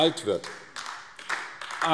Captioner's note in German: Beifall AfD